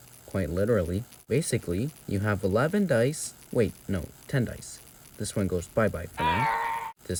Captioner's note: lego yoda scream